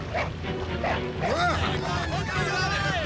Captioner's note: exclaims; all clamoring